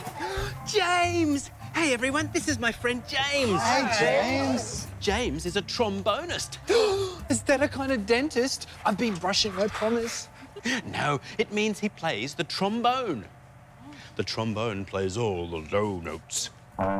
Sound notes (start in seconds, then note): 0.2 gasps; 6.7 gasps